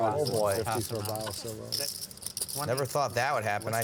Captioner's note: chattering